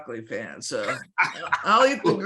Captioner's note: laughs